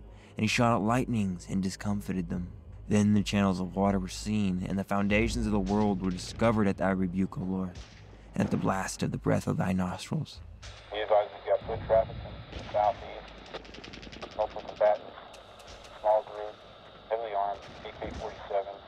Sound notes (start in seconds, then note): 12.5 gunshots cracking; 18.7 radio crackling